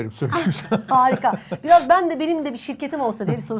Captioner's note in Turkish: kahkaha